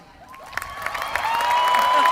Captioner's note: applause